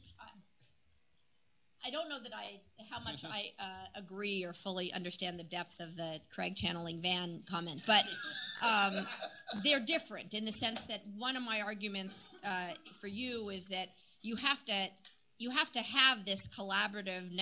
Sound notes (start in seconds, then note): 7.8 laughter